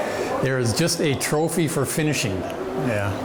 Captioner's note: people chattering distantly